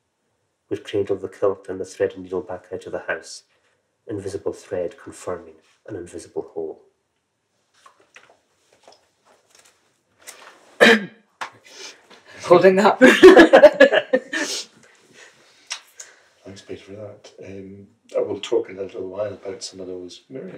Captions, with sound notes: Would cradle the kilt and the threaded needle back out of the house Invisible thread confirming an invisible hole. (COUGHS) Holding up. (LAUGHS) Thanks, Peter, for that. We'll talk in a little while about some of those.